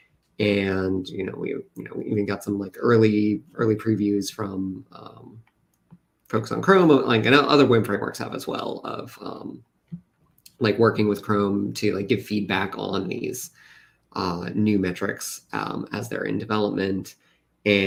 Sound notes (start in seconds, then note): none